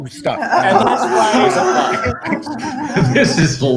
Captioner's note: participants laughing